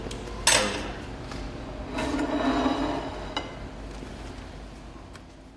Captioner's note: plate clinking